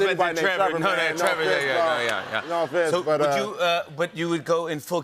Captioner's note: laughter